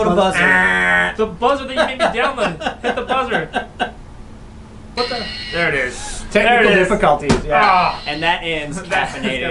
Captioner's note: buzzer noise; laughter; buzzer sounds, finally